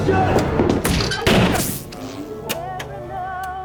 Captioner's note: gun shot; smack